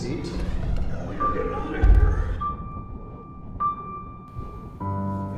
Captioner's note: voices warbling